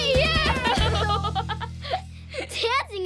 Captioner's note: laughing